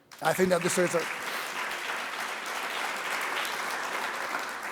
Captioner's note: audience clapping